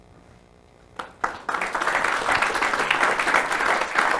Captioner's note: audience clap